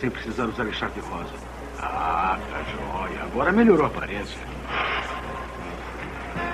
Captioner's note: bus Rumbling